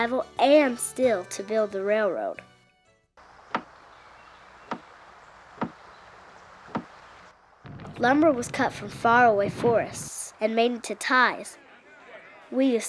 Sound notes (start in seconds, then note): 3.3 axe chopping